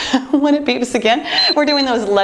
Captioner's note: timer beeping